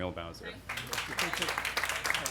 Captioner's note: applause